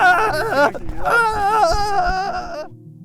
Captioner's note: yelling